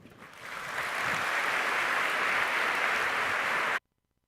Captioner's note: applause